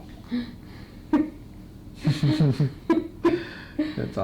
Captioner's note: adults laughing